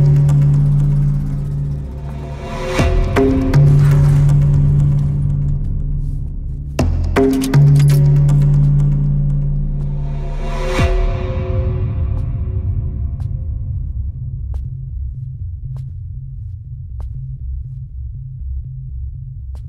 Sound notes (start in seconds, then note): 12.0 footsteps recede